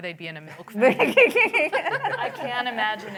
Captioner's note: laughter